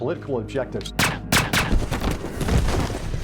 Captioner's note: gunshots banging; body thudding